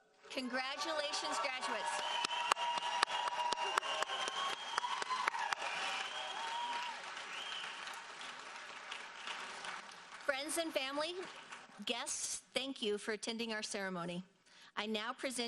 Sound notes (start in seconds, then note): 2.4 audience cheers and applauds